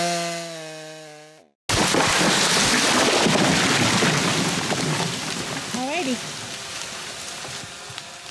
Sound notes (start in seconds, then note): 1.7 loud crashing